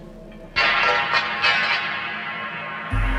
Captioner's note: loud crashing sound